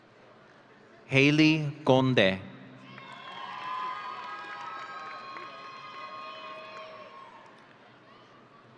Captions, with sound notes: Haley Conde. (audience cheering)